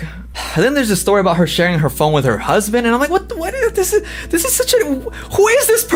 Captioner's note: sighs